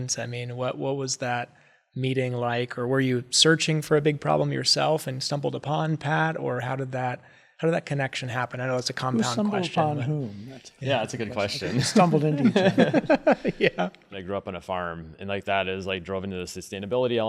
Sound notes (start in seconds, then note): 13.9 laugh